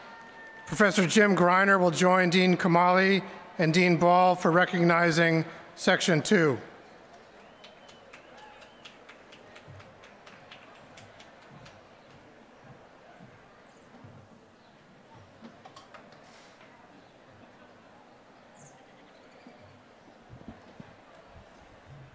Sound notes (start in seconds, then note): 7.1 applause